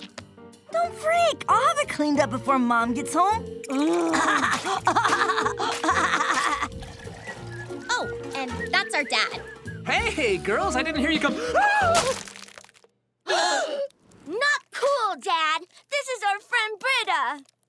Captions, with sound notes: Don't freak. I'll have it cleaned up before Mom gets home. [laughing] Oh, and that's our dad. Hey, girls, I didn't hear you come- Ah! [gasping] Not cool, Dad! This is our friend Brita!